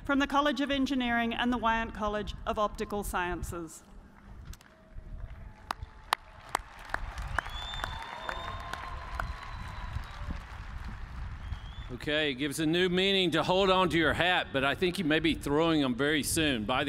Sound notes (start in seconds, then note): 5.5 applause